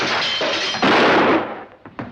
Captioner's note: gunshot